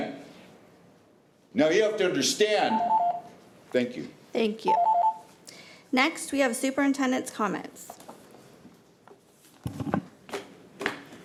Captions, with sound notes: Now you have to understand- (timer beeping) Thank you. - Thank you. Next we have superintendent's comments.